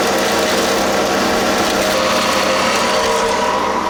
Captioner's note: motor running